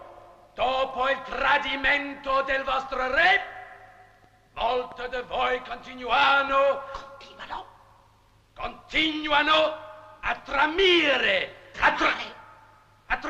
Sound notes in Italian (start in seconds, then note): 6.5 sottovoce